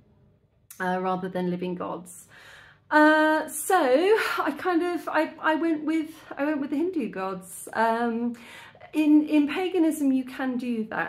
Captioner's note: sigh